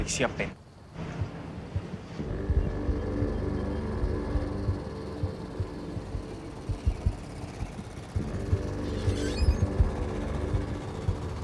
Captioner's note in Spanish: Ruido de la camioneta